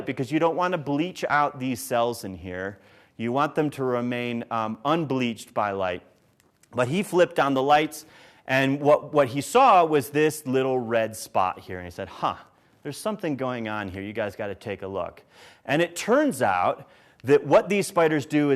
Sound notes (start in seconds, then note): none